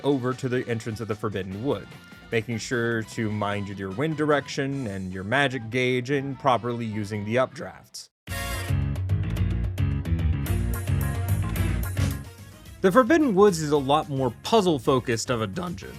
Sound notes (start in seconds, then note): none